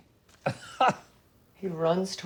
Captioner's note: laughing